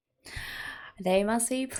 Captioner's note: intake of breath